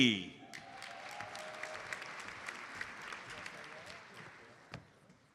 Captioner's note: audience applauds